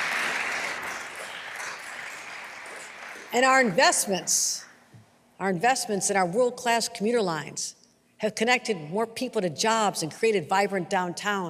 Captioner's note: applause